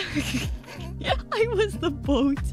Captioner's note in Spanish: baffled laughter